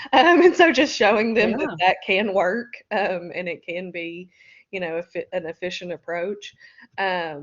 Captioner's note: laughter